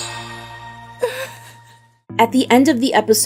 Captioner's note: Camila crying